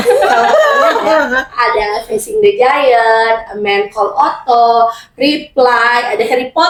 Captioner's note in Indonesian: tertawa